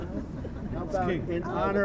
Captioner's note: laughter